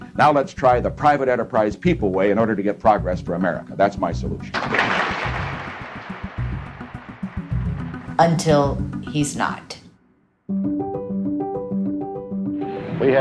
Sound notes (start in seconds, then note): 0.0 soundbite of archived recording; 4.8 applause; 9.8 soundbite of montage